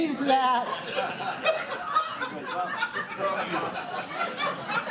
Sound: laughter

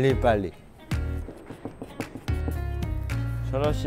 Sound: rushing

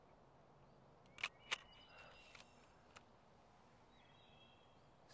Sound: shutter clicks

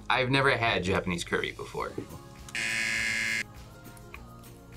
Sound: buzzer

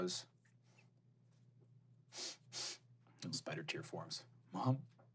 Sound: sniffling

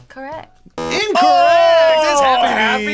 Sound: buzzer

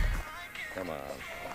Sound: upbeat music; phone rings

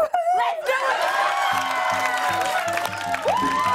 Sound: cheers and applause

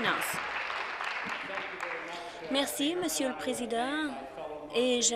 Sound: applause

